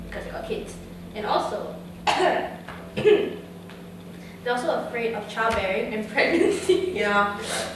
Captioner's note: coughs